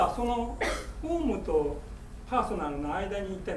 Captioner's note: speaking in foreign language; coughing